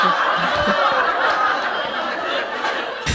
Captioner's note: laughter